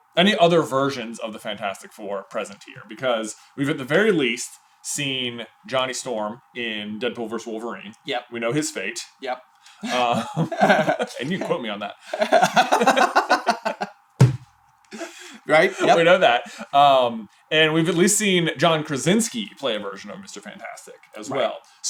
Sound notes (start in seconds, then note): 12.1 laughter